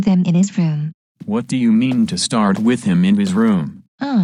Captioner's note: footsteps